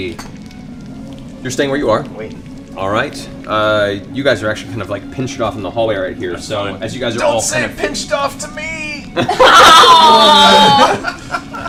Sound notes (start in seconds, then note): 8.3 strained; 9.1 laughter